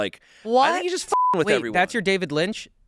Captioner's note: beep